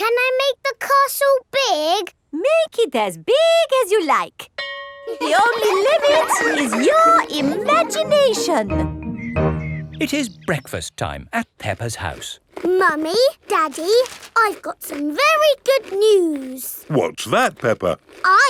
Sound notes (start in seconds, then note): 4.6 school bell rings; 5.0 children laughing